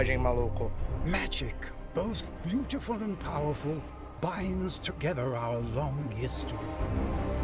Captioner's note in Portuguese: narração em inglês